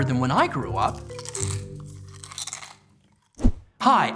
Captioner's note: chews crunchy snack